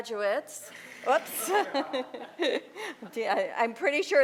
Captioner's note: laughter